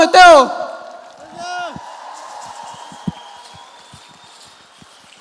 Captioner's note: audience applauds